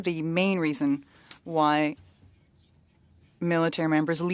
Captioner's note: speaking French